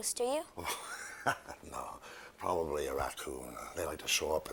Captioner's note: laughs